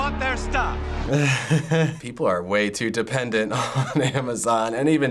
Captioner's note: chuckles